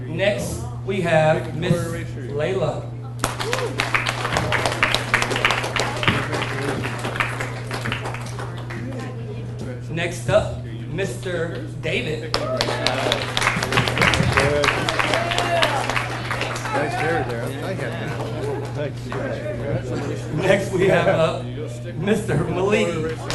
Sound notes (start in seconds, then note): 3.2 audience cheers and applauds; 5.7 people chattering; 12.3 audience cheers and applauds; 18.1 people chattering